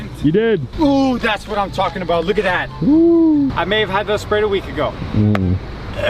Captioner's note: gag